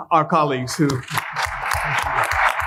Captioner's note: applause